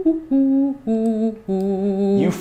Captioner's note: hums melodiously